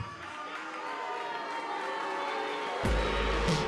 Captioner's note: cheers and boos